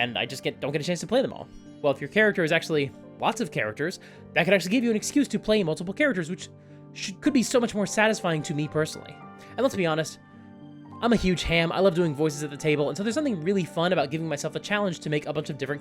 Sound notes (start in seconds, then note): none